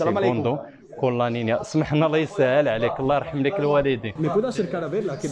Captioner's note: speaks in Arab